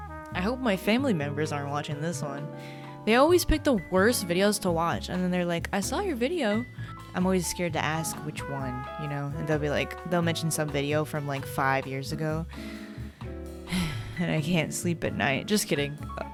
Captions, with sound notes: I hope my family members aren't watching this one, they always pick the worst videos to watch and then they're like, I saw your video I'm always scared to ask which one, you know and they'll be like, they'll mention some video from like five years ago *sighs* and I can't sleep at night, just kidding